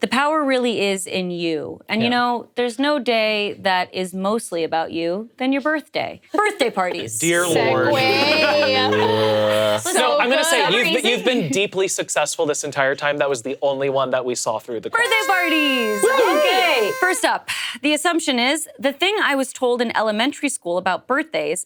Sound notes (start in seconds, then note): 14.9 noisemaker blowing